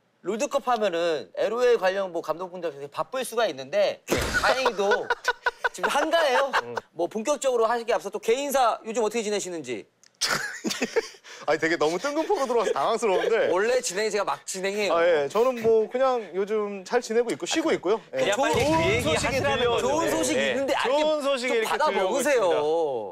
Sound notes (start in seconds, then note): 10.2 chuckles